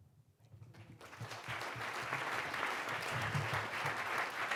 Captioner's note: applause